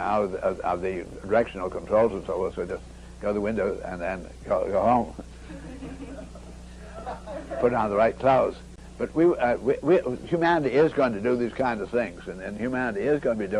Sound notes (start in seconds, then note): 5.4 lots of chuckles from the audience